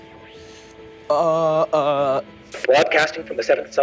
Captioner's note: gentle music; stammering